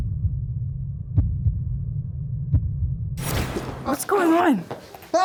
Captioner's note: dramatic heart beating